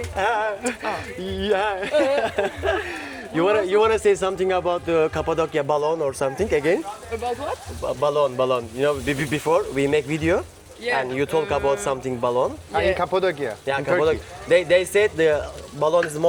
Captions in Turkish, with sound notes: [kahkaha] you something about Kapodia